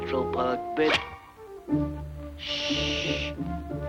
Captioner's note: scissors snip